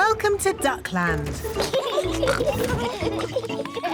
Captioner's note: both giggling